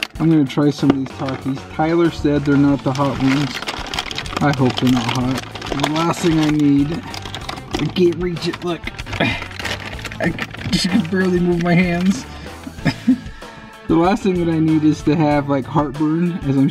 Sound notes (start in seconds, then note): 8.8 gasps; 12.6 chuckles